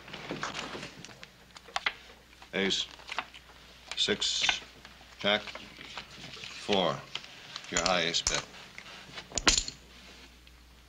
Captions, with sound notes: - Ace... six... Jack... four. You're high, ace. Bet. [ clank ]